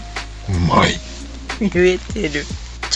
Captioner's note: laughs